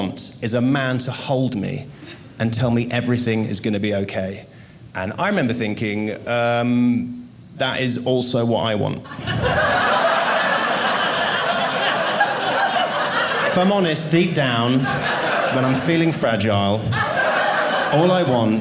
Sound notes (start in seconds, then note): 9.0 audience laughing